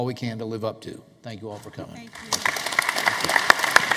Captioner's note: applause